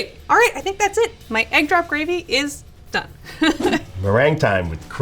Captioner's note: laughing